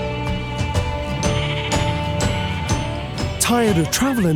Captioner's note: baaing